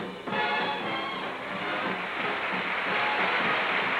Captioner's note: applause